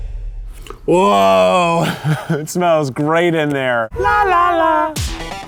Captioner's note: laughs